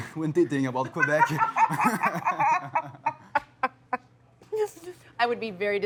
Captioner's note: laughter